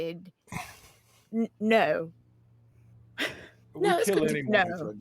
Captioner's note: laughs